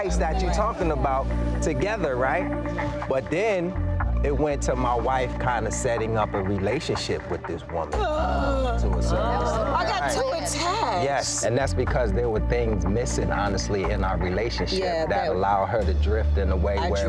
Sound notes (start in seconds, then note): 8.2 groans